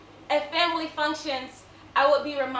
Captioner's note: none